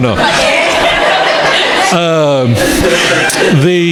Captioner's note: crowd laughing